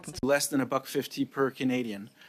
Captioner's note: speaking an alternate language